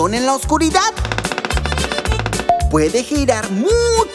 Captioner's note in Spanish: Sonido de pájaro carpintero